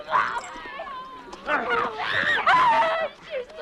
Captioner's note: both grunting